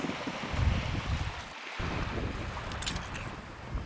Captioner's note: wind and waves